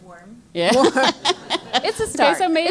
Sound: laugh

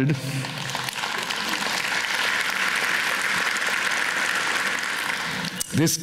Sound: applause

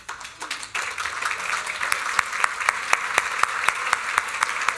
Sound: applause

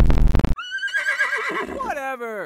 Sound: horse Neigh

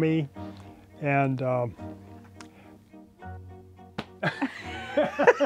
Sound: laughter

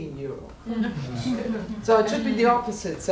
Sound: audience laughing

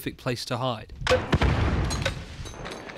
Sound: M203 makes another pop as it's reloaded; M203 goes thoonk; explosion

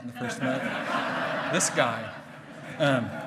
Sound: hearty laughing

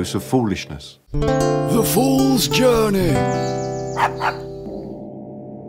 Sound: dog barks

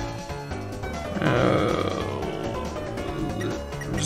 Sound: thinking noises

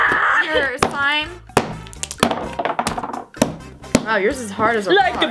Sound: slapping

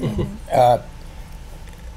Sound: chuckles

